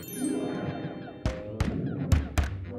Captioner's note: knocking